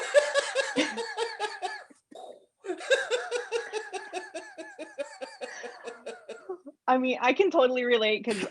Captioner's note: laughter